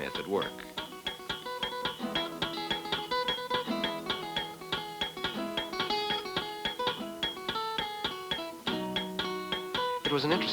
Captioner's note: flamenco music playing; hammers banging